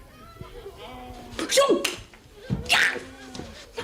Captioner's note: shouting